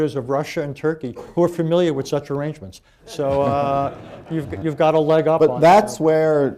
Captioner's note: laughter